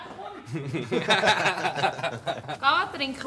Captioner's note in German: lacht